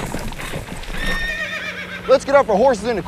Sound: horse hooves clopping; loud neigh

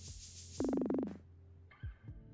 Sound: beeping

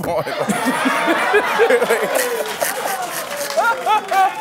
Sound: laughter, applause

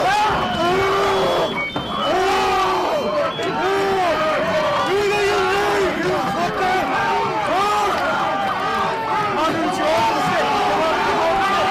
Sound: screaming; screaming

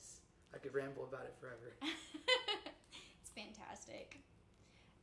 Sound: chuckles

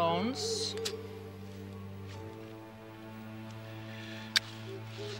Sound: lighter flicks and clicks

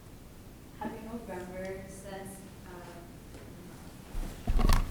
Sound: woman muttering

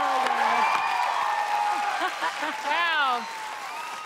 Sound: audience cheering

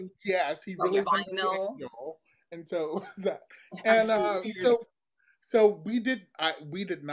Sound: chuckles

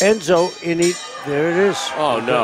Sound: bell ringing

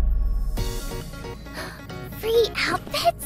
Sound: gasp

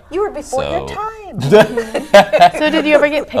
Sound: laughter

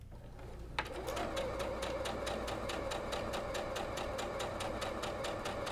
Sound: sewing machine humming

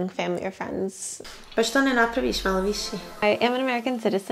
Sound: speaking in Bosnian

